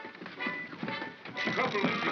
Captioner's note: feet scrambling; chattering sound of gears; suspenseful music